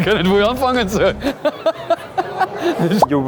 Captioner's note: laughter